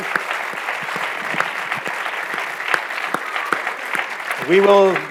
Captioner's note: audience applauding